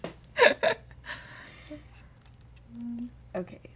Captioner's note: laughter